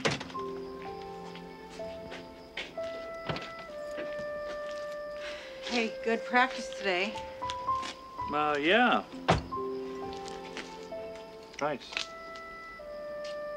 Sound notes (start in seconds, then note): 0.0 car door clunking; 2.2 sighs